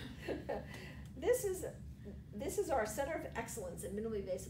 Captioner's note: laughs